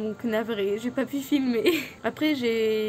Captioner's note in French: rire